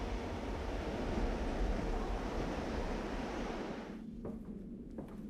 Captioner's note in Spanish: silbido del viento